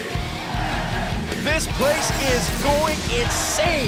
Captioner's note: crowd cheering